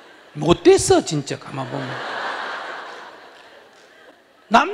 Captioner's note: audience Laughter